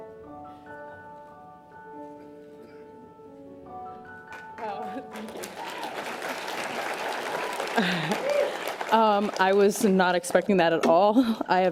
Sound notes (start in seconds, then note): 0.0 piano music; 6.6 audience applause